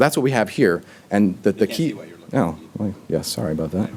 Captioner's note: talking distantly